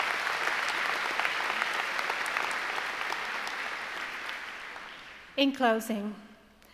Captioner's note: applause